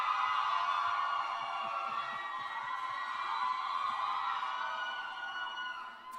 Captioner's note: cheers and applause